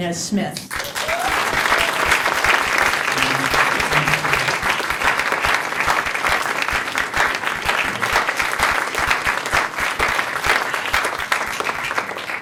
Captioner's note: applause